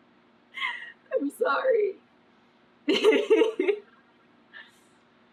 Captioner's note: laughs